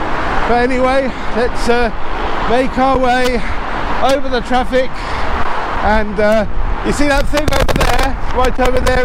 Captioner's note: interference